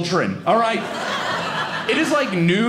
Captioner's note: audience laughing